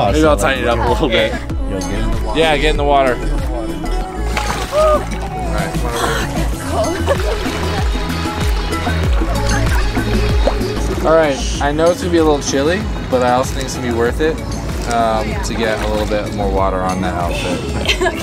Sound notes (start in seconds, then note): 4.2 splash; 7.5 upbeat music